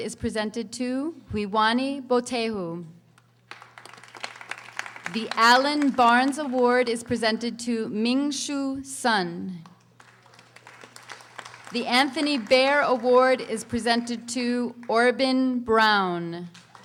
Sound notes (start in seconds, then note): 3.4 audience applauding; 16.6 audience applauding